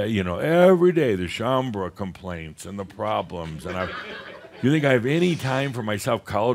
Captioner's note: some chuckles